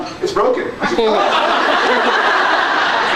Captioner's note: laughs